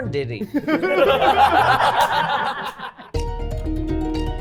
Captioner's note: everyone laughing; upbeat music